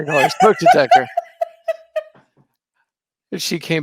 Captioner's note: laughing